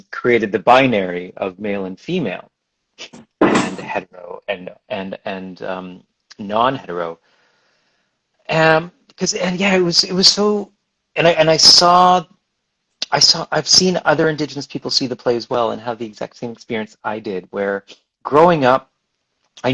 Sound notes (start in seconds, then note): 10.6 stammers